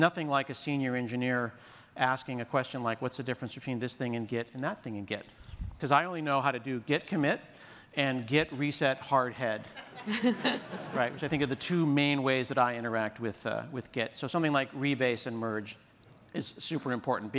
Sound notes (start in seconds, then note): 9.6 laughter